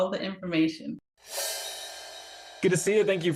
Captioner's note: graphic whooshing